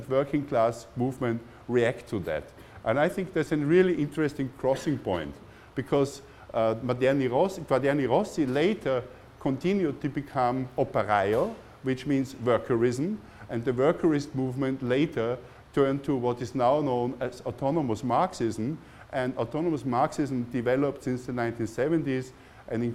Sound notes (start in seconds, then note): 6.9 foreign language